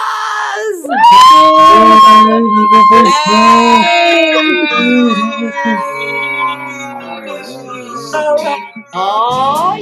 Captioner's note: cheering